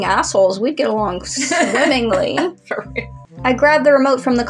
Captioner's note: laugh